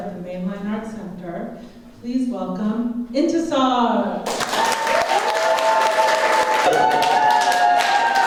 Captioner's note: applause